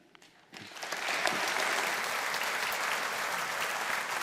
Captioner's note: audience applauding